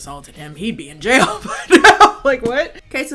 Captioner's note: chuckling